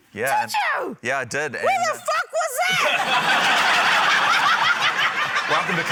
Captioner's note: laughter